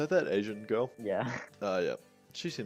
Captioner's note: laughing